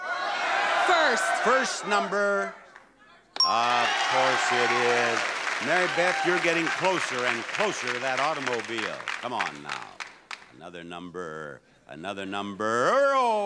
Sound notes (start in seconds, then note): 3.6 audience applauding; 3.6 buzzer chimes